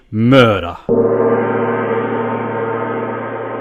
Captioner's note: gong